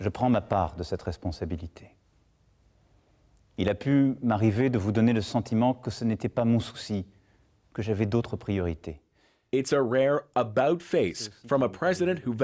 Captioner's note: speaking French